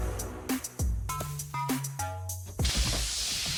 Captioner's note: body thud